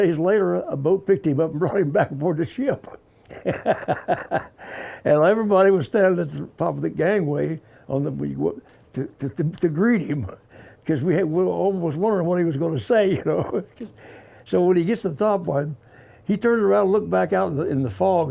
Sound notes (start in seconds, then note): 3.2 laughing; 7.5 stammers; 13.0 laughing